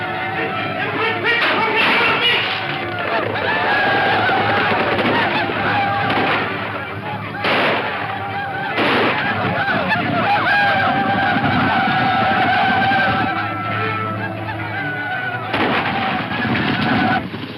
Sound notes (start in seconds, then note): 0.7 yells; 6.9 gunshots; 15.5 gunshot